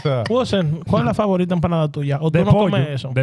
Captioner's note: speaking Foreign Language